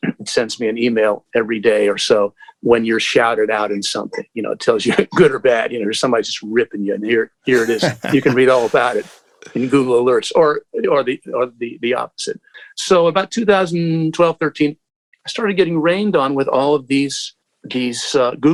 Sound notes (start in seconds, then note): 7.5 laughter